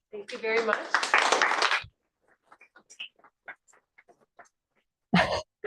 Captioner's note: applause